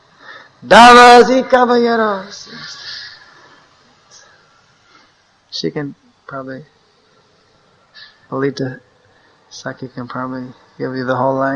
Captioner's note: speaks in Spanish